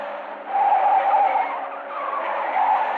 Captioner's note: tires screeching